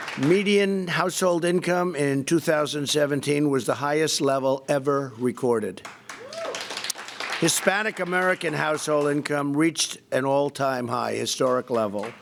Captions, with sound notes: Median household income in 2017 was the highest level ever recorded. (Applause.) Hispanic American household income reached an all-time high, historic level.